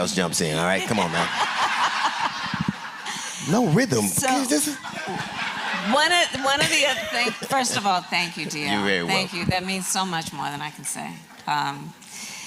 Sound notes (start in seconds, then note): 0.6 laughter